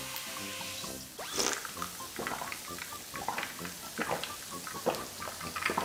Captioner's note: slurp